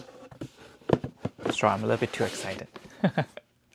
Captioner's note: chuckles